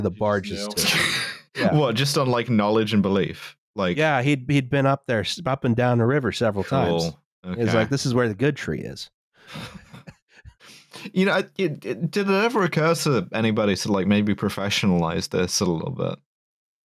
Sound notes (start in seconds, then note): 0.6 laughs; 9.4 laughs breathily